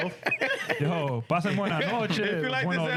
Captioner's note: speaking In Foreign Language